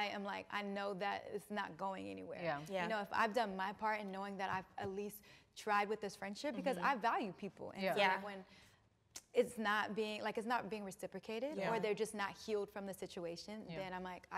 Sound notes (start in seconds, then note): none